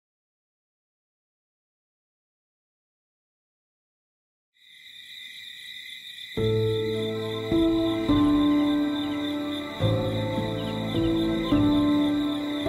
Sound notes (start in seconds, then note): 5.4 crickets chirping; 6.4 soft ambient music